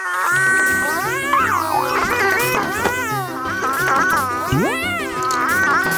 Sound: screaming

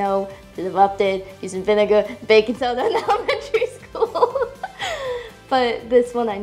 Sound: laughing

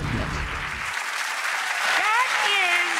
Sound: audience applauds

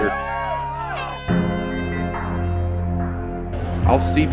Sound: cheering

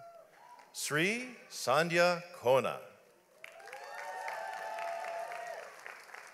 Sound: audience applauds

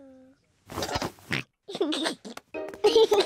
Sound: oinks and giggles

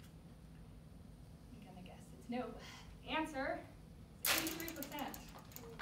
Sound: accidently hits projector making loud sound

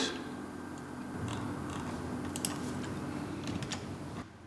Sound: click, rolling sound

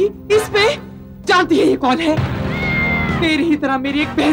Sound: cat yowling

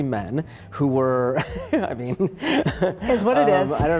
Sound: chuckles

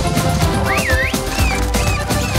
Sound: whistles

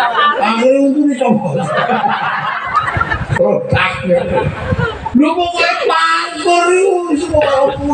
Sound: laughs

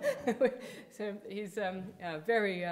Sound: audience chuckling; lecturer chuckling

